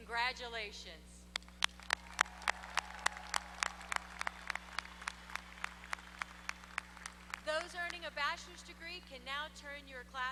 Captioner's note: applause